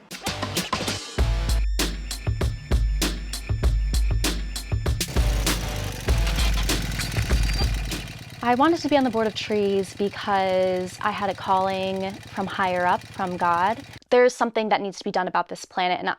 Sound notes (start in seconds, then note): 0.0 rhythmic music; 5.2 motorcycle